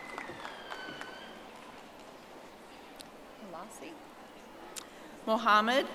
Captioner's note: audience applauding